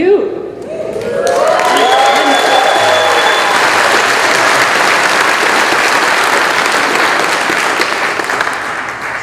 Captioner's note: cheering